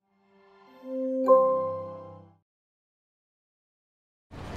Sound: gentle tone

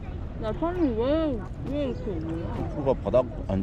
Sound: eating a sandwich... mumbling

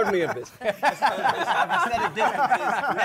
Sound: laughter

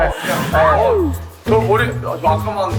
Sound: surprised

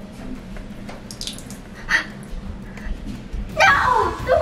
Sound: water dribbling

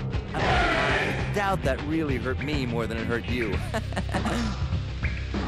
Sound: laughs

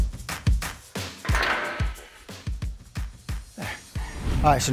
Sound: idle roller clanks

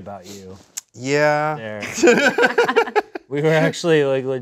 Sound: laughs

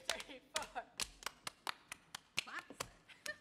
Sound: clapping rhythmically

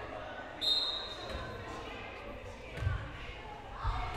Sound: whistle blowing

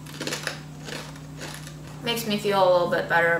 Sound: crunching

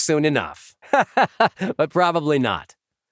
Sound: laughing

